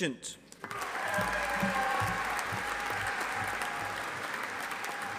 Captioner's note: audience applauding